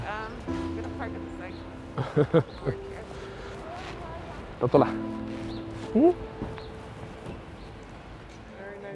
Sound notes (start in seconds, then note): 0.3 sad piano music; 4.9 foreign language